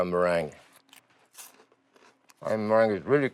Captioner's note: crunching